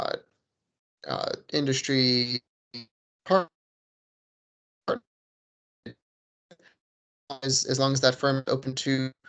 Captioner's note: distorted audio